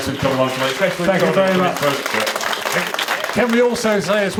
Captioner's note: applause